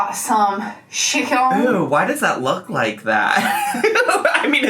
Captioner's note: laughs